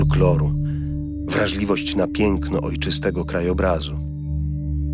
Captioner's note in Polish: dźwięk dzwoneczków